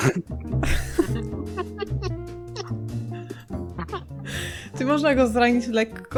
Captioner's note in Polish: śmiech